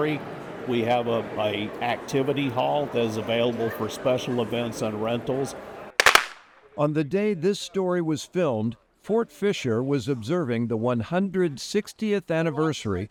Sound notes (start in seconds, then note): 6.0 guns firing